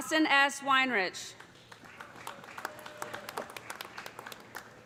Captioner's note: applause